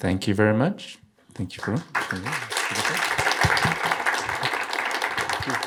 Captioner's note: audience applauding